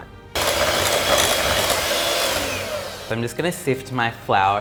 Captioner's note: whirring sounds